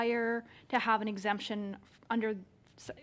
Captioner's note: speaking English